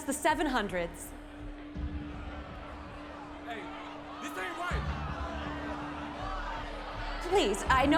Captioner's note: crowd shouting, arguing